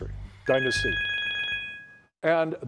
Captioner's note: timer beeps